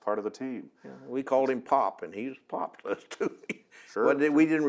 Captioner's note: laughs